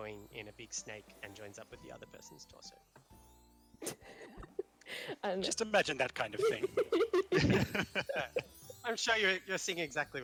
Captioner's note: laughing